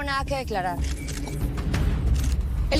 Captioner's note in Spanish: Clic de las cámaras